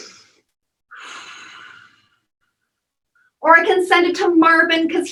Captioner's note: deep breathing and exhaling